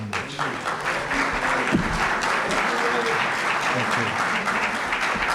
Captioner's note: applause